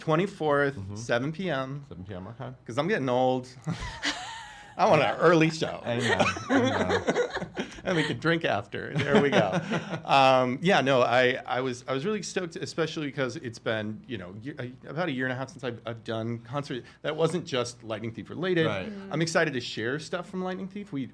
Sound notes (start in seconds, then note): 3.6 all laughing